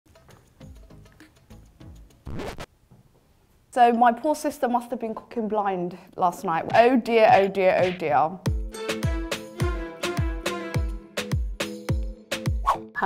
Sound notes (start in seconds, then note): 0.1 easygoing music; 2.2 record scratching; 8.4 upbeat music